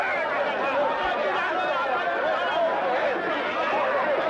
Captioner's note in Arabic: حشد من الناس يصرخون